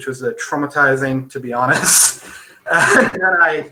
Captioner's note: laughing